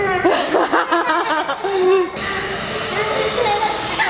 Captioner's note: laughing